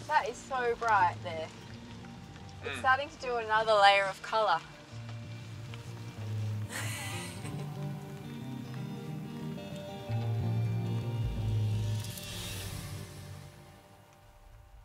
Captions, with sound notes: That is so bright there. It's starting to do another layer of color. (laughing) (gentle electronic music)